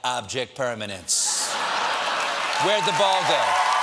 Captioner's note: laughter